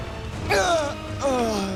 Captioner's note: moaning